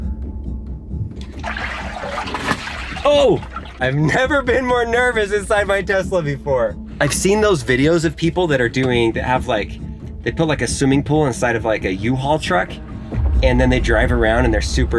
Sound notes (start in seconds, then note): 3.5 suspenseful music continues; 3.5 water bed burbles